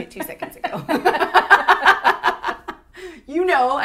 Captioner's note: laughter